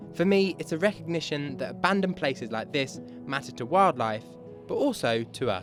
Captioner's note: none